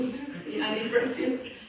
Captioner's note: laughs